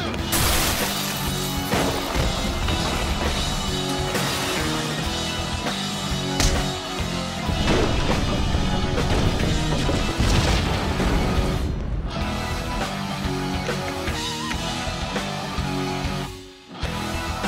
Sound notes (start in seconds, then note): 0.0 energetic rock music; 0.3 buildings crashing; 9.0 fist booming